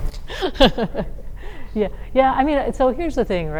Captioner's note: laughs